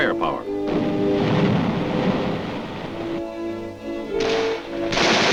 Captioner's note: explosion booming; gunshots booming